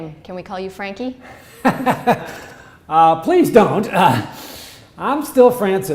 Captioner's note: laughs